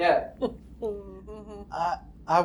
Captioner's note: laughs